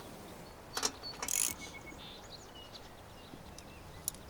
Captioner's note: ratcheting